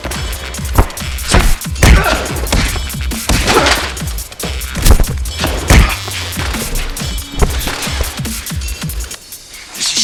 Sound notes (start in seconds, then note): 2.2 fist pounding; 6.0 fist pounding; 7.3 upbeat music